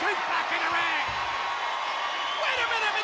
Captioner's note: spectators cheering